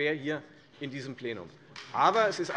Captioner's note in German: Beifall Freie Demokraten und SPD